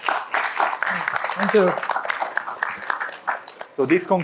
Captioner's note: all clapping